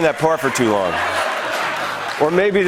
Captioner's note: laughter